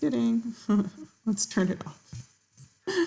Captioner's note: giggling